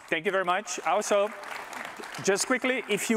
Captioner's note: applause